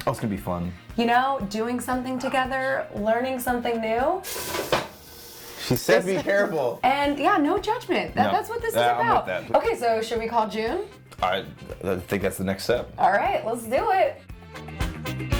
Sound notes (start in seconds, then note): 4.4 kitchenware crashes